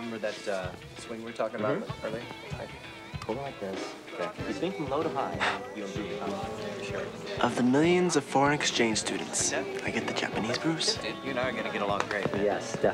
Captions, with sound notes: Remember that swing we were talking about earlier? Hold it like this. [chattering] Of the millions of foreign exchange students, I get the Japanese Bruce. You and I are gonna get along great, man.